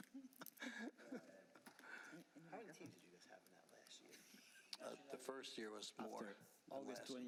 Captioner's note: laughter